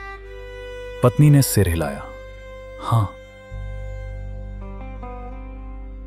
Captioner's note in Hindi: नाक से की जाने वाली आवाज़